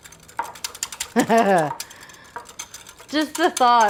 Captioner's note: Julia laughing